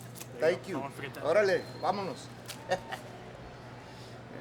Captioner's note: speaking Spanish